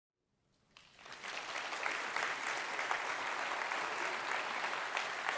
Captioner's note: audience applauds